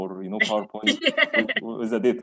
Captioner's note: laughs